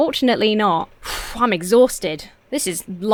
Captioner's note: sighs